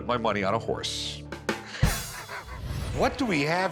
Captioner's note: laughs